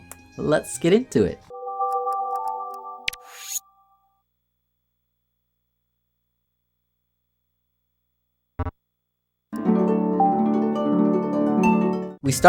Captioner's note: Sounds of Wii booting the game